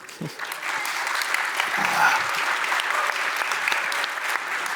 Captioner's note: audience applauds